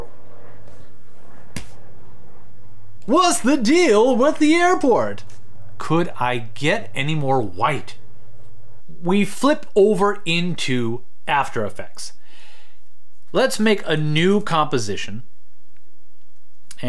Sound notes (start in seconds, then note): 2.8 Seinfeld voice